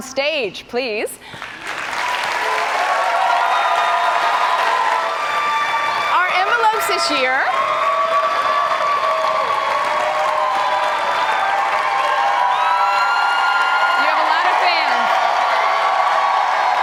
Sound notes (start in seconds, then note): 3.0 cheers and applause continue